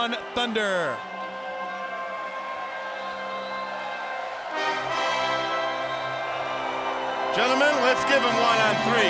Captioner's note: crowd cheering